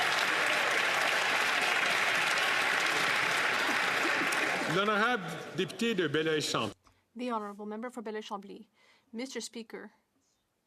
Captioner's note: some Applause